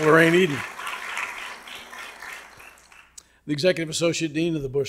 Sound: audience clapping

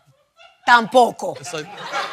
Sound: spanish

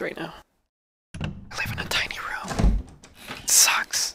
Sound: whispering

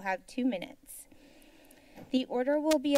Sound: silence

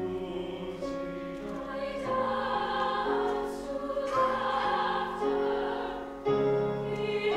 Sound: high voices

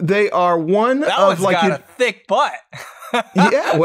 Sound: laughter

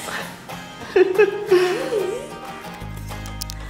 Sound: laughter

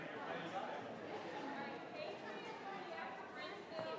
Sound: people chattering

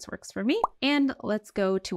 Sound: text overlay blooping

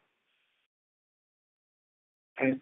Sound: silence

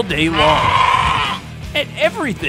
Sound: bleating

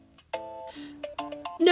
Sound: inhale

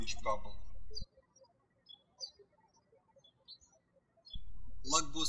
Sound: birds chirping

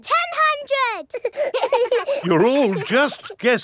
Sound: children laughing

